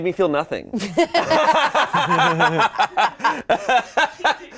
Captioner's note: all laughing